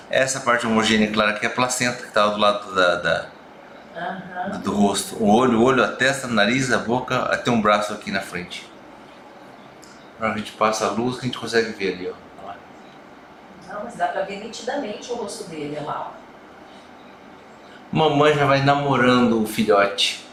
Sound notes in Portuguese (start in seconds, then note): 3.9 murmúrio de afirmação